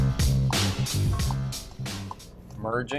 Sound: car signal clicking

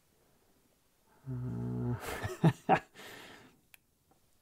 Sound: laughs

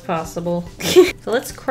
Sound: laughs

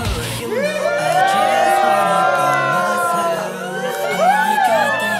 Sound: cheer

